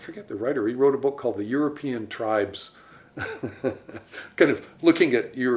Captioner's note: chuckles